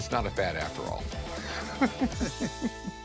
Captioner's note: laughing